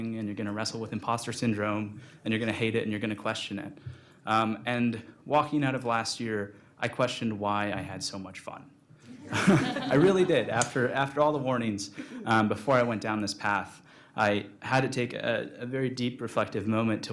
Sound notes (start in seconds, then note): 9.1 audience laughing